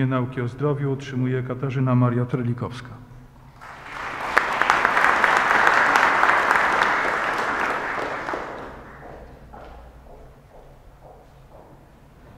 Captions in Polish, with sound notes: nauk o zdrowiu otrzymuje Katarzyna Maria Terlikowska. [oklaski]